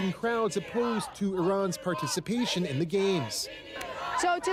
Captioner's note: chanting